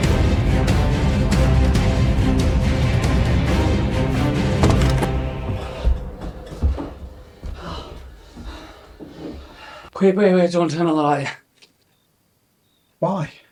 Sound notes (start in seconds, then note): 5.4 both panting